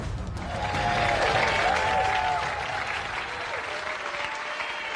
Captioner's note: audience cheering